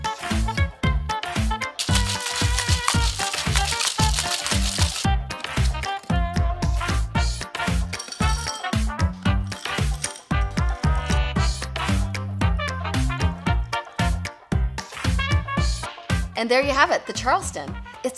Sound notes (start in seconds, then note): 1.8 ice shakes in mixer; 5.6 upbeat music